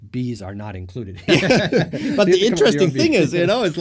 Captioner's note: laughing